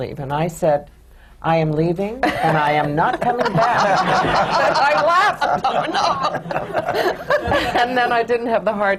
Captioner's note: laughter